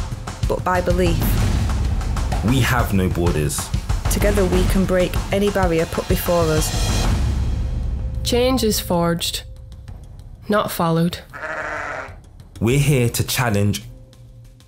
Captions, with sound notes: but by belief. We have no borders. Together we can break any barrier put before us. Change is forged. Not followed. [Sheep bleating] We're here to challenge...